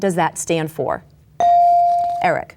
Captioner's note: bell dings